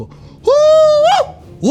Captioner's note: screams